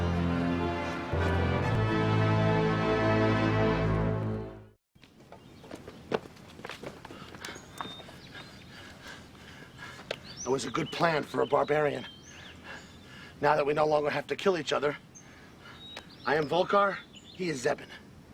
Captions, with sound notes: (birds chirping) (running footsteps) (heavy breathing) - That was a good plan for a barbarian. Now that we no longer have to kill each other, I am Vulkar. He is Zzeben.